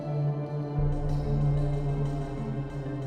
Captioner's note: none